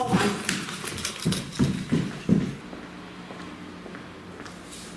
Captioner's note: footsteps